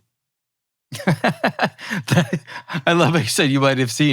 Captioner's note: laughing